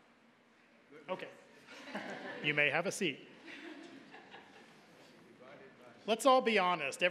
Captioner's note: audience chuckling